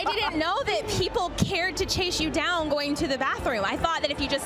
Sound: laughter

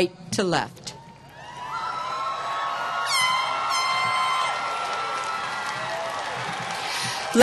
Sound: applause

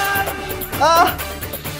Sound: shouting

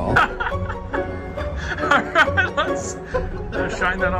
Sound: people laughing

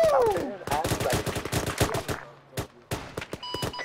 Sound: gunfire

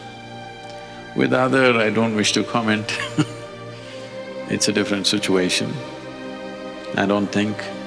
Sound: laughs

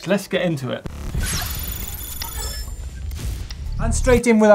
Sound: futuristic noises

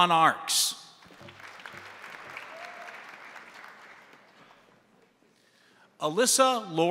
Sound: crowd applauding; crowd cheering

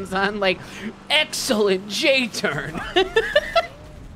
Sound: laughing

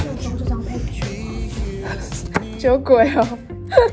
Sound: laugh; laugh

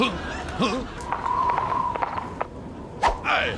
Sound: horse galloping; Mr. T yells

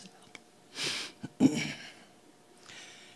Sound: clearing throat

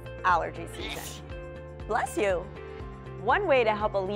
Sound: sneezing

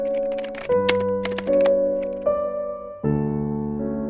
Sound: typewriter sound

